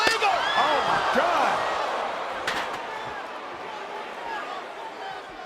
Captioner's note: chair ringing